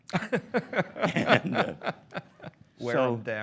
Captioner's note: laughs